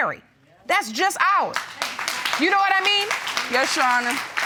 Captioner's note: audience applauds